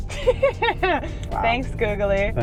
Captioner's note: laughing